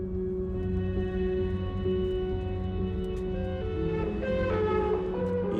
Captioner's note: police siren sounding